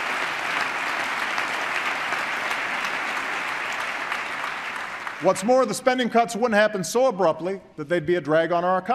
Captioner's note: applause